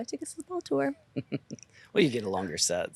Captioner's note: laughs